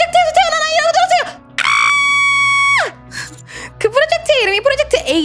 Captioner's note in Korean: 비명